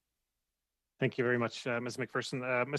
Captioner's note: speaking French